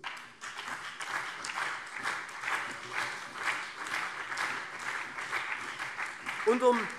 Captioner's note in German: Beifall SPD und CDU